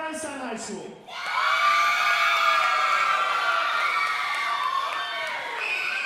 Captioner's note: audience cheering and applauding